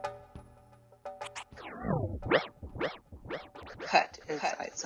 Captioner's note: tape rewinds